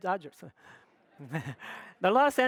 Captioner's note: audience laughs